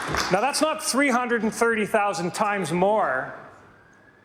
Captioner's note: some Applause